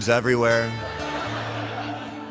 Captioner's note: laughter